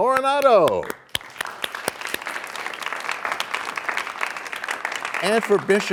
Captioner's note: applause